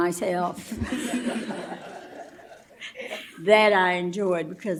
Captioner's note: laughter